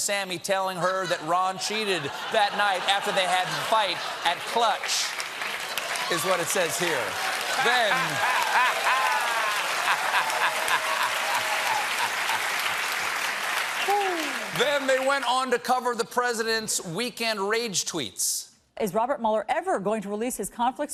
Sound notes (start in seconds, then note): 7.8 applause; 11.4 laughter